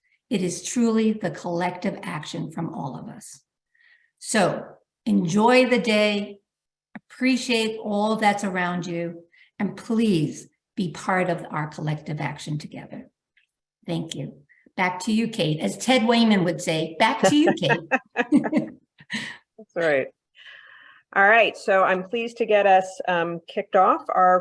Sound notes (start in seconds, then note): 17.1 laughs